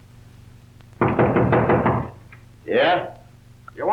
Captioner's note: someone knocks